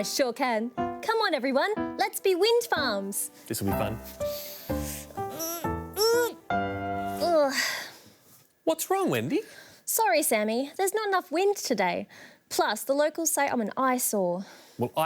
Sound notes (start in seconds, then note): 4.9 strains; 5.9 groans